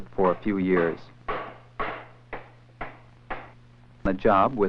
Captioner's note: hammering noises